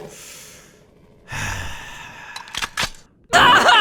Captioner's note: long sigh